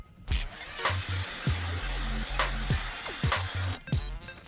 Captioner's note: auger grinds